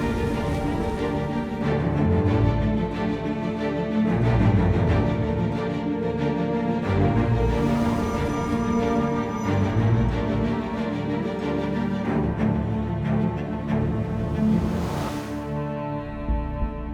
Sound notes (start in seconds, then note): none